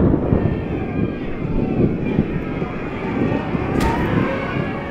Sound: protestors shouting

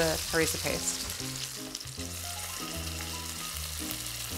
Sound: sizzling

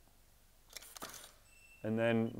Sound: camera shutter clicks

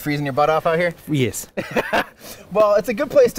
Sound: laughs

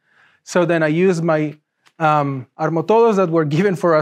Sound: speaks in foreign language

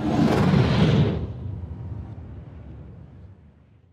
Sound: whoosh

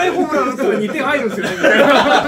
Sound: laughs

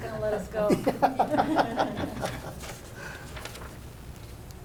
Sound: laughing

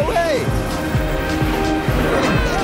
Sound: buzzing; all cheering

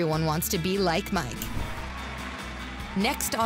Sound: cheers and applause

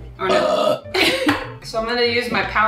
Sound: burps

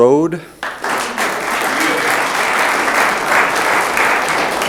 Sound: room applauds

